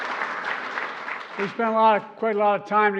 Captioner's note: applause